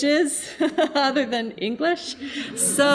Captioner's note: laughing